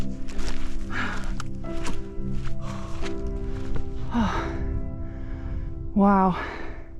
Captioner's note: huffing & puffing